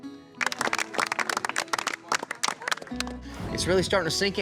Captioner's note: applause